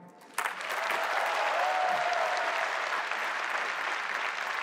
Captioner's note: applause